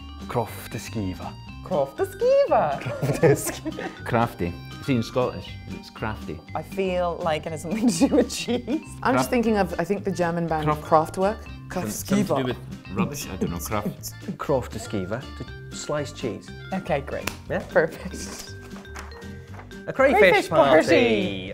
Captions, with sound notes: — Krofte-skeeva. — Krofte- skeeva ! (BOTH LAUGH) Krafte. It seems Scottish, cos it's "crafty"! I feel like it has something to do with cheese! I'm thinking of the German band, Kraftwerk. — Kraft-skeeva! — Something to do with rubbish? — Krofte-skeeva. Sliced cheese. — OK, great. Perfect. A crayfish party!